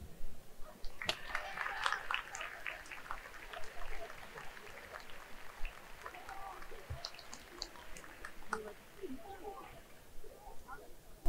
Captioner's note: claps